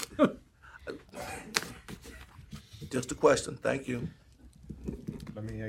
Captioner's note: laughter